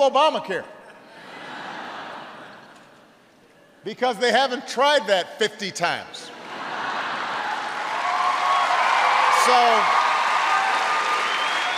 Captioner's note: laughter